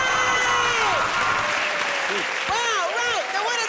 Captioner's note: cheers and applause